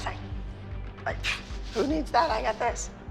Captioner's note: scoffs